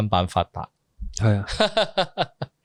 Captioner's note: sigh!